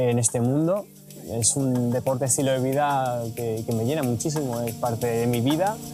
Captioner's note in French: en espagnol